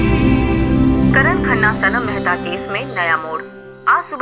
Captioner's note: News on TV